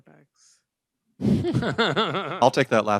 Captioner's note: laughter